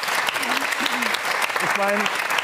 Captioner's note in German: Räuspern